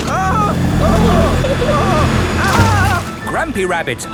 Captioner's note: grandpa screaming